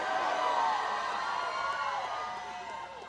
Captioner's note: applause